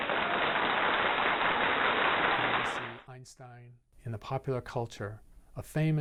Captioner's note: applause